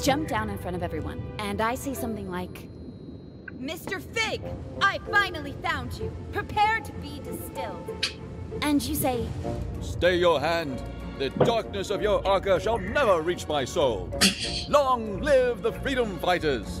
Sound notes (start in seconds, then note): 8.0 Musky scoffs; 14.2 scoffs